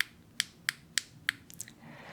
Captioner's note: clicky sounds